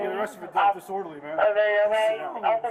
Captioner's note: radio chatter